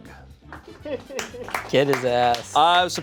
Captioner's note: crew applauds